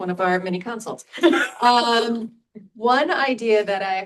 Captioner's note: laughs